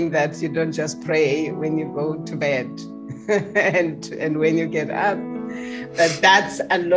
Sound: chuckles

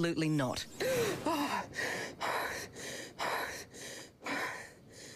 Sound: gasping

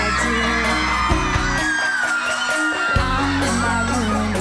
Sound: audience cheering

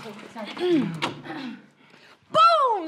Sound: clears throat

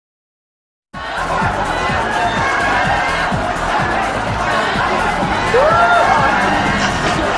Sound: crowd in the party

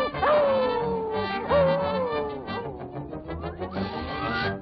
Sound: dog howls

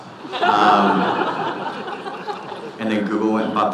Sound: audience laughing

